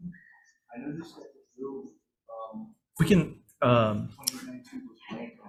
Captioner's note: testifier chattering